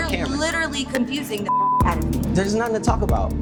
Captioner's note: beep